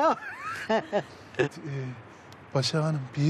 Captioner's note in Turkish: Gülme sesleri